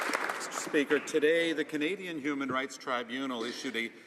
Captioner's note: some Applause